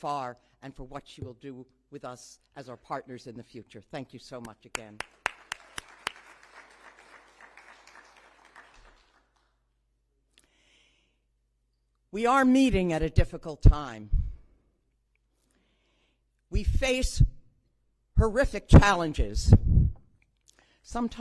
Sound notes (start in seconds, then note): 10.4 applause